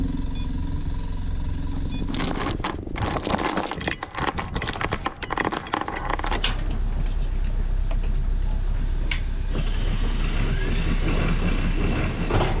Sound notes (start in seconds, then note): 0.2 screen beeping; 2.1 chain rattling; 9.6 motor whirring